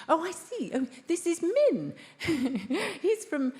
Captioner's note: laughs